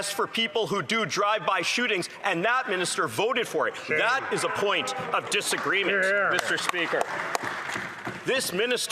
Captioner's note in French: voix de l'interprète